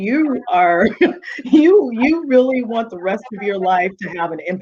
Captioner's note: chuckling